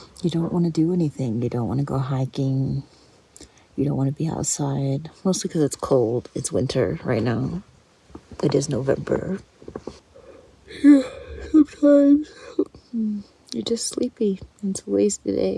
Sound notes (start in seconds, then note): 10.6 yawn